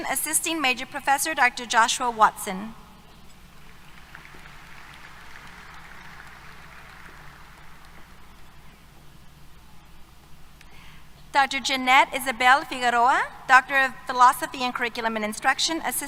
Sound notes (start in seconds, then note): 3.6 applause